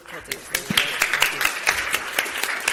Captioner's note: audience applause